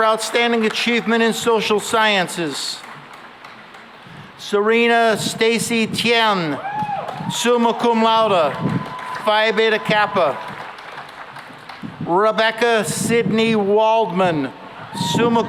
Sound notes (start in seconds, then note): 6.6 cheering and applause; 13.9 cheering and applause